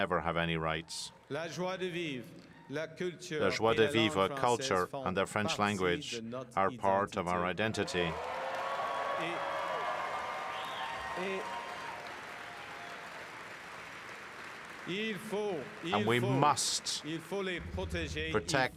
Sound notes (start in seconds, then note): 8.5 speaking French; 15.5 cheering and Applause